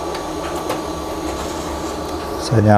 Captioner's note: printer machine noise